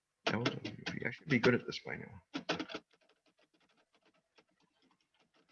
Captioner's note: keyboard clicking